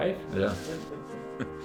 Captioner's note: both laugh